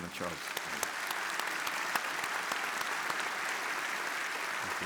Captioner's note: audience applauding